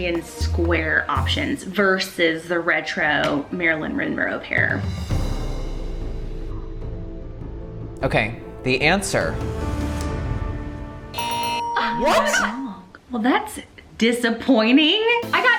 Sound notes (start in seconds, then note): 4.8 suspenseful music; 11.1 bells ringing; 11.2 buzzer ringing